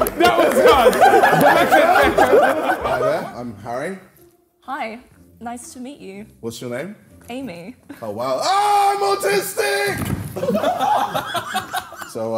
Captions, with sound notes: - That was hard. - Hi there, I'm Harry. - Hi, nice to meet you. - What's your name? - Amy. - Oh, wow. (yells) I'm autistic! (Sidemen laughing)